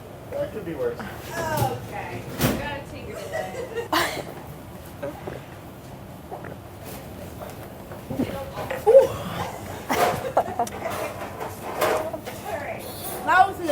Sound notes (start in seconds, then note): 3.1 laughing; 4.4 gulping; 10.4 laughing